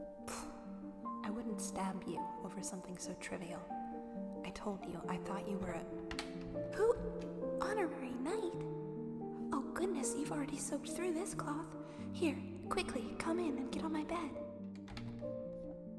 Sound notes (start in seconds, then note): 5.4 door opens, the sound echoing; 8.2 voice echoing; 14.7 door closes, echo ends